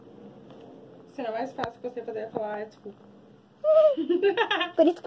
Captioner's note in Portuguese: risos